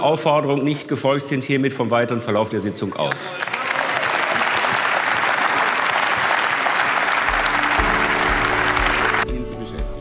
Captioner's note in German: Applaus